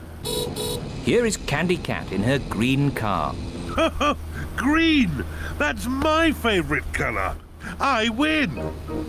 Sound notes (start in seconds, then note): 0.2 horn beeps; 3.6 laughs